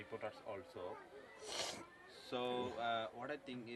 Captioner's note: sniffles